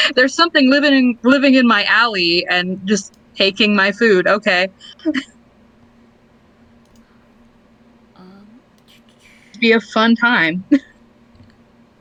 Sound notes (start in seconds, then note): 10.2 laughs